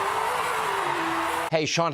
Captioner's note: cheering and applause